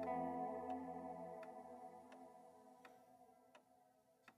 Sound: clock ticking

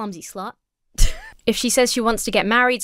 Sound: wheezes

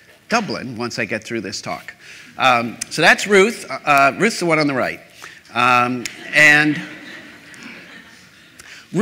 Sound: laughter

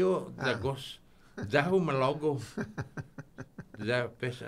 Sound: laughing

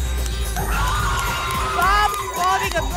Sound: applause and cheering

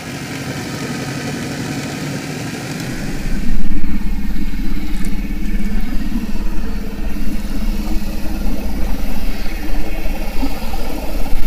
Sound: sound of boat passing

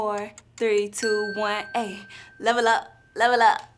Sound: bell dings

